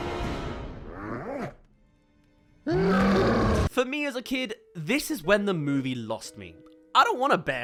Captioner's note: screams